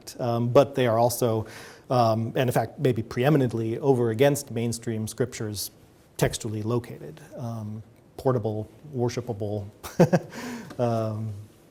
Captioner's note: chuckles